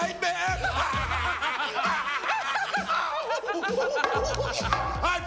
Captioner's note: Hart Foundation laughs